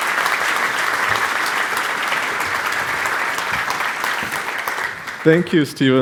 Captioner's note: applause